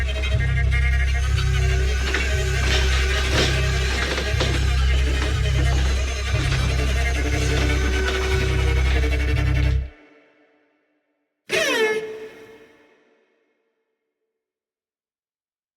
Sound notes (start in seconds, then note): 13.9 screaming